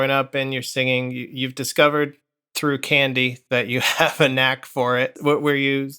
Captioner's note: laughter